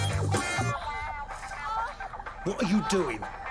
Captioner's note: woman moaning on TV